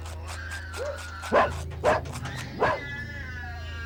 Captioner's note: dog barking